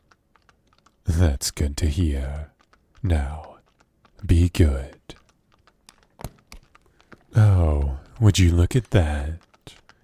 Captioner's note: click